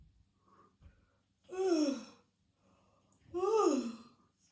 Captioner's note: yawning